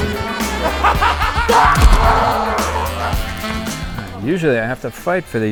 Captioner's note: laughs; growls